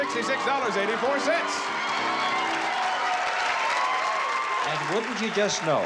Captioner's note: cheering